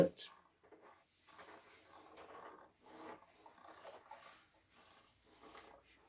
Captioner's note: ironing board creaking